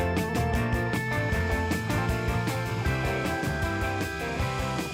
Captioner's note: drone whirs